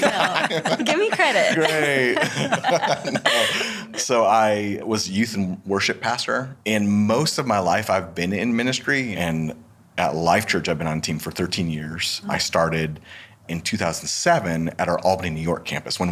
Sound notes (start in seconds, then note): 0.0 laughing; 2.9 all laughing